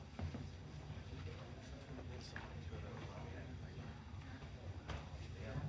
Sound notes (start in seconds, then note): 1.7 people chattering softly